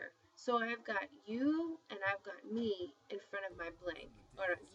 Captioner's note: spanish